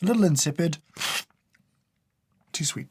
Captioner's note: slurp